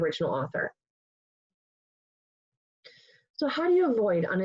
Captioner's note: pause